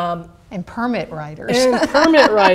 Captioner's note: laughs